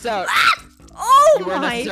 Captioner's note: death noises